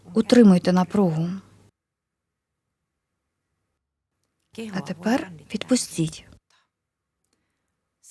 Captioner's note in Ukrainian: пауза